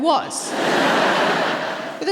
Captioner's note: laughter